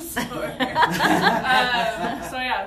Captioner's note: laughter